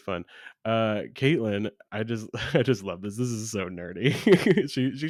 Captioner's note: laughs